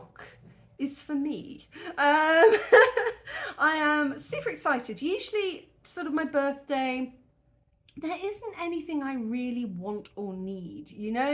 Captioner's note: laughing